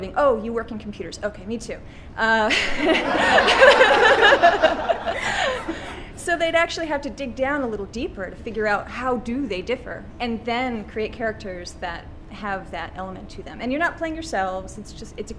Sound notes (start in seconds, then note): 2.5 audience laughs